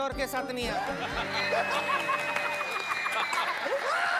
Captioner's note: laughing